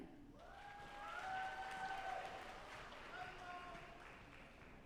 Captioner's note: audience applauding